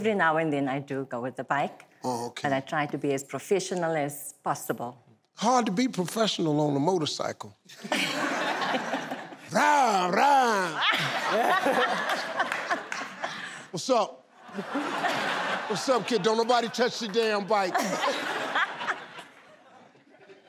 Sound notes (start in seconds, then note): 7.9 laughing; 17.8 laughing